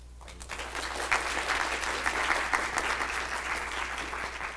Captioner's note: audience applause